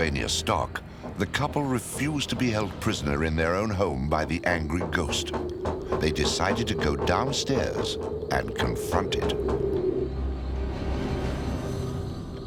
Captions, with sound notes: the couple refused to be held prisoner in their own home by the angry ghost. They decided to go downstairs and confront it. [door rattles] [eerie music]